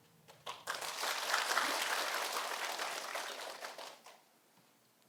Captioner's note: audience applauding